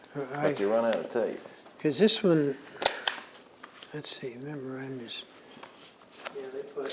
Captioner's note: shuffles papers